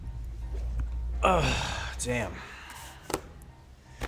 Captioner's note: groans